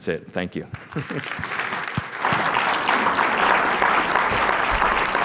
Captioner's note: applause